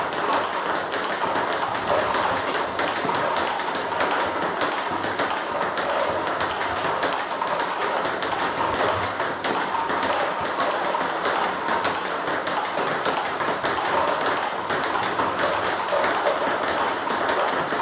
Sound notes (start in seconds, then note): 3.4 ball ping pong hitting continues; 12.4 ball ping pong hitting continues